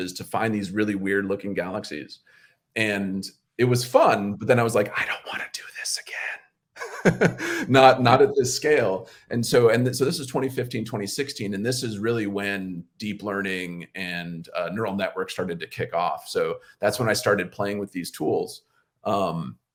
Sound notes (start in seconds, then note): 6.8 laughs